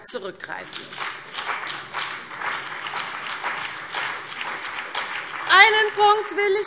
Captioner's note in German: Beifall CDU und BÜNDNIS 90/DIE GRÜNEN